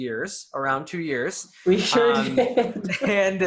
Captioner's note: laughs